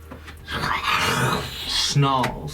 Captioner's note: snarling noise